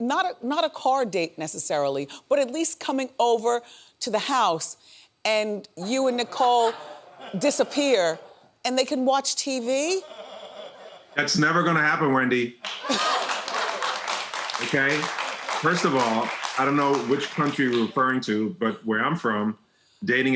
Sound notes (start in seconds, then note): 6.1 audience laughing; 9.9 audience laughing; 12.6 audience gasping and applauding